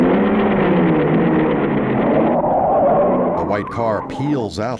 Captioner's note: tires screech